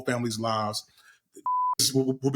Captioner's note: beep